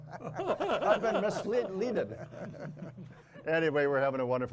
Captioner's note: laughs